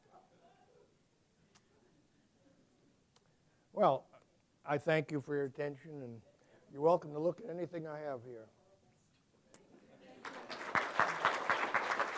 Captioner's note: applause